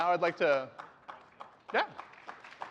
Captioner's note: applause